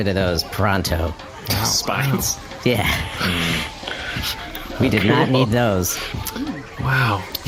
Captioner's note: laughs